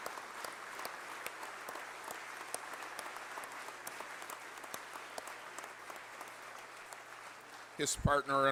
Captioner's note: applause